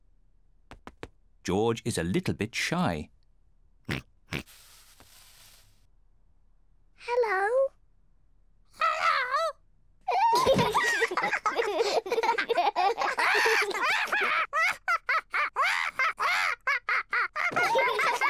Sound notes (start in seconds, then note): 10.1 kids giggle; 12.2 polly laughs; 15.1 kids laugh; 15.1 polly laughs